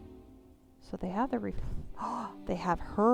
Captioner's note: gasp